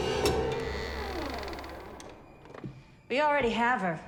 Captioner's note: door creaks